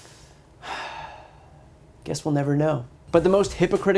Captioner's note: sigh